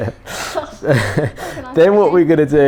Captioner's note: chuckles